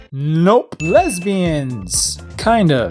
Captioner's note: ding